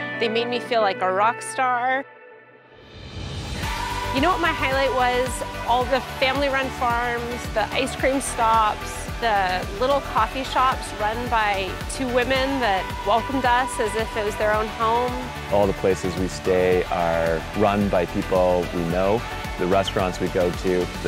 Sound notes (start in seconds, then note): 15.6 male Voice